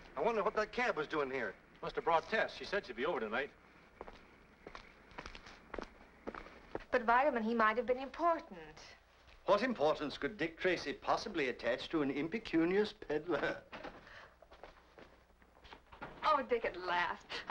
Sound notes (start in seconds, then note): 13.6 door clicks